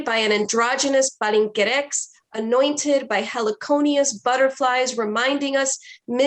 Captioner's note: foreign language